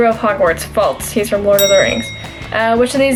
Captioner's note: bell rings